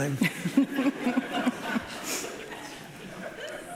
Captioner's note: laughing